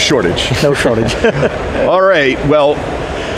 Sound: laughs

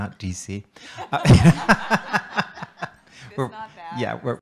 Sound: laughter

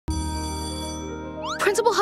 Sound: bell ringing

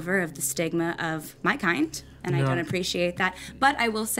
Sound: none

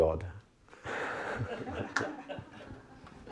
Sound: laughter

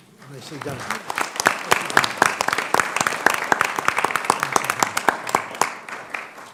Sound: applause

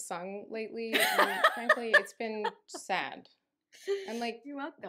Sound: laughing

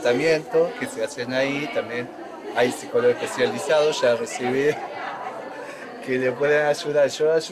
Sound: laughs

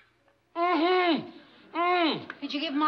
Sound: moaning

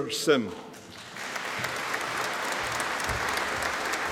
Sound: audience applauding

